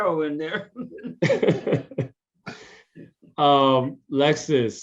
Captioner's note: laugh